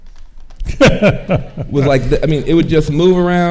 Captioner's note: metallic clicking; laughing